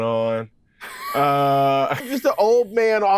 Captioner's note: laugh